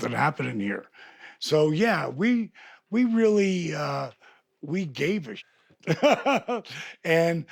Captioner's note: laughs